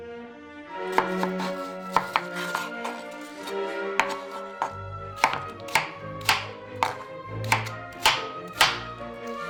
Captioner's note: classical music; knife slices watermelon; classical music continues